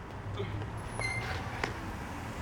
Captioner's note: door opens/creaks